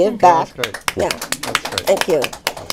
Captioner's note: applause